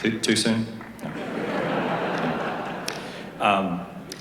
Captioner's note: laughter